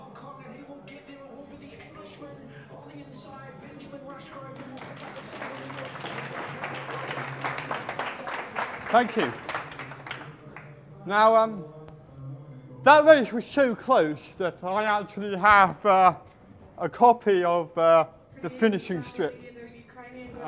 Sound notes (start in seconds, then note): 8.9 clapping